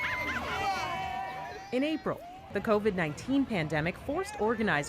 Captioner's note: cheers and Applause